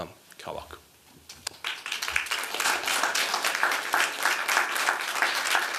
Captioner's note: applause